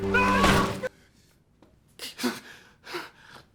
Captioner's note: gun clatters; Addison pants heavily